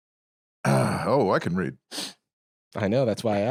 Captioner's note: clears throat